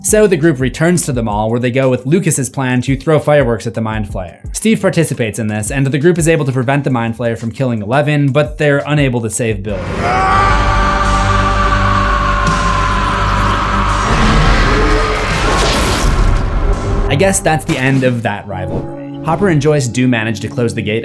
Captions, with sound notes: So the group returns to the mall, where they go with Lucas’s plan to throw fireworks at the Mind Flayer. Steve participates in this, and the group is able to prevent the Mind Flayer from killing Eleven, but they are unable to save Billy. (Billy Sceaming) I guess that’s the end of that rivalry. Hopper and Joyce do manage to close the